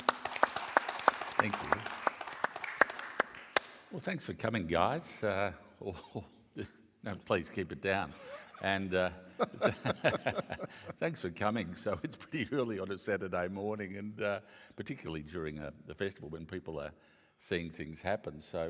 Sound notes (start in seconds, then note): 0.0 audience clapping; 8.1 laughs